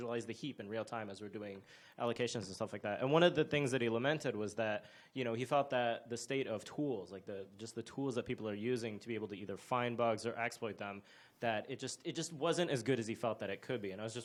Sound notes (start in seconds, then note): none